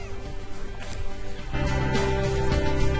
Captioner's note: kitten mews